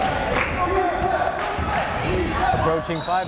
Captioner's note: crowd chanting defense